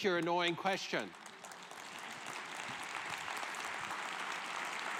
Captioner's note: applause